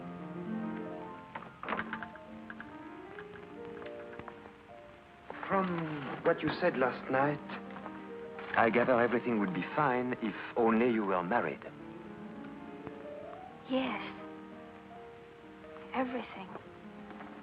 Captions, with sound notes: [piano playing] [door closes] From what you said last night, I gather everything would be fine if only you were married.